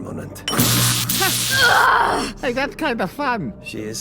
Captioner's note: ZAP!!!! - sheraka groans